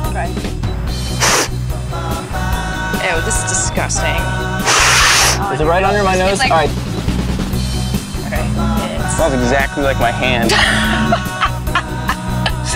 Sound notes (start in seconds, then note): 1.1 sniffing; 4.6 sniffing; 10.4 laughing